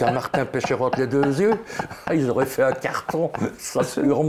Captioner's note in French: Rire